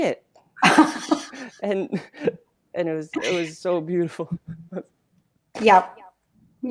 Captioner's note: laughs